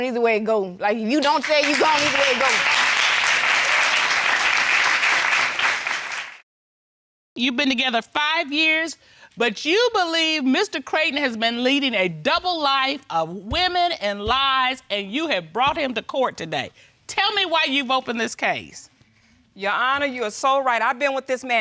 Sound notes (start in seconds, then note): 3.6 audience applauding